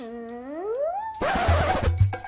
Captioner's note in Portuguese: disco arranhado